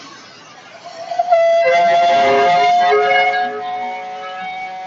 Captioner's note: whistle blowing